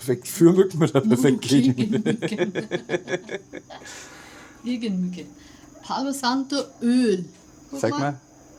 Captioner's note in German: gelächter